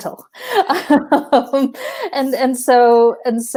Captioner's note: laughing